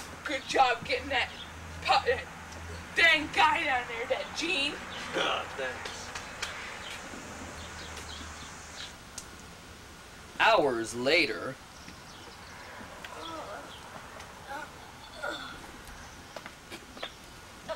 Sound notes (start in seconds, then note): 5.0 laughs; 12.9 groans